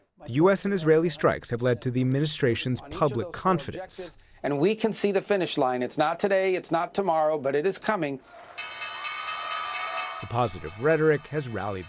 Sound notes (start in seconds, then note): 8.5 bell ringing